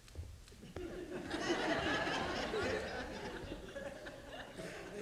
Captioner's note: audience laughing